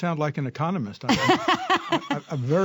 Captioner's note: laughter